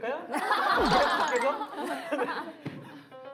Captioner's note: laughing